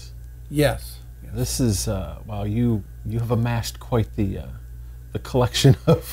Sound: laughs

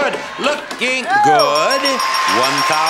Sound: bell dinging

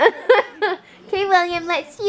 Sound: laughing

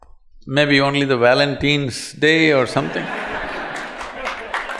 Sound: laughter/Applause

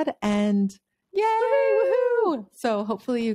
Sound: both cheering

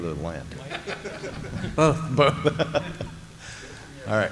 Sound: laughter

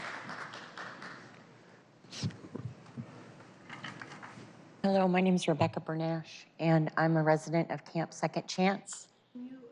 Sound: applause

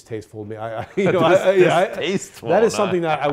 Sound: laughing

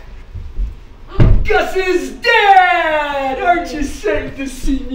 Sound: stomping on floor

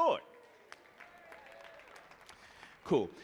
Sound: audience applauding

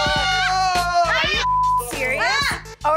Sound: beep

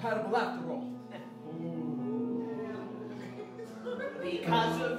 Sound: audience oohs

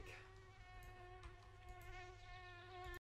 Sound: fly buzzing

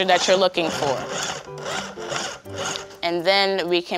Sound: pulsing whirs

